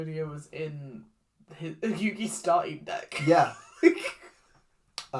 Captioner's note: laughs